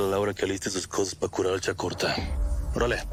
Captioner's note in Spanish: none